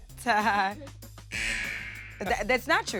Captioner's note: chuckles; buzzer rings